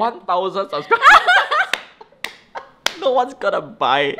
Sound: both laugh

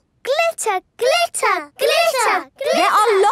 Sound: chanting

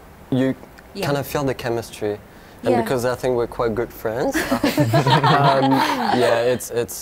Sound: laughter

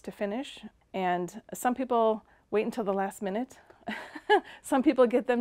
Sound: laughing

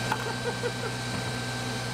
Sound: giggle

